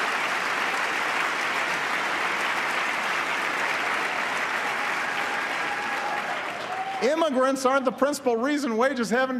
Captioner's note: applause